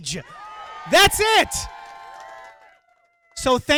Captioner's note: crowd cheering